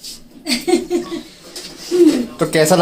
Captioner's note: laugh